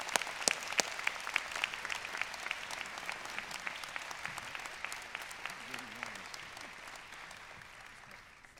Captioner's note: applause